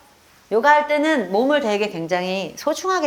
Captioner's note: none